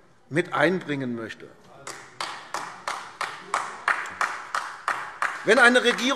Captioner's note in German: Beifall AfD